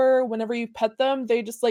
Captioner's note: none